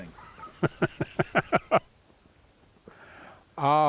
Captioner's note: laughs